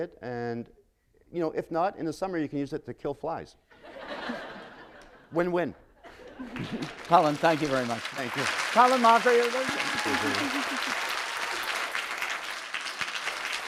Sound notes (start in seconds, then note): 3.7 laughter; 5.6 applause; 9.6 applause